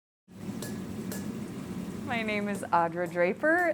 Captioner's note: hammer clanging